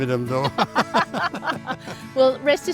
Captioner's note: both laughing